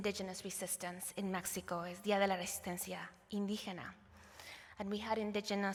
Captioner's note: non-english